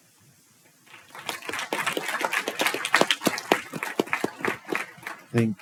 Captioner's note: applause